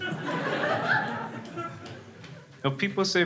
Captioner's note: crowd laughs